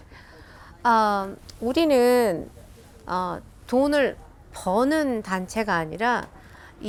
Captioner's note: speaking in foreign language